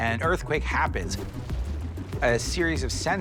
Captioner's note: earth shaking